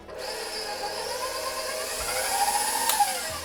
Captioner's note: mixer burrs